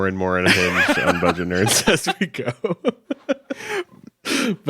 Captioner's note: chuckles